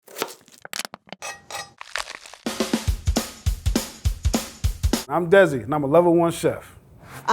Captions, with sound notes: [knife hitting board] [plastic crunching] [knife scraping] [bread breaking] [percussive music] - I'm Desi, and I'm a level one chef.